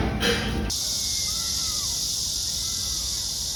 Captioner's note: wow, the sound of cicadas is really loud